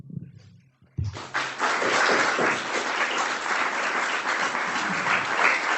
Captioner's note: audience clapping